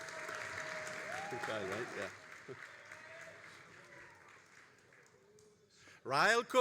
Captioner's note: all applauding and cheering; graduate speaking faintly